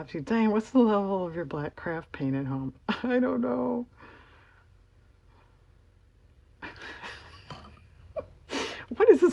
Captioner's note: laughs